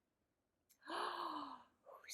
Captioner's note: gasps